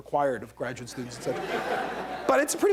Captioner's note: laughter